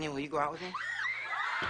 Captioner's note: people screaming in the background